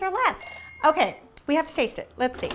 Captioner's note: bell ringing